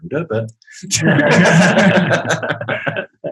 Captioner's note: group laughing